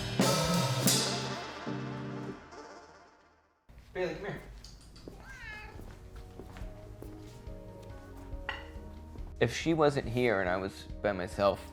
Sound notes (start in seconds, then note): 0.0 drum playing ends; 5.1 cat meow